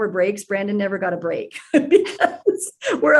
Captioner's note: laughs